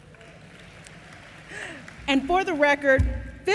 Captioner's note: applause